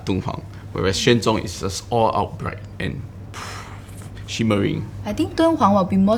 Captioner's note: pfft